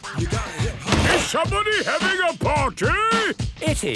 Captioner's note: shouts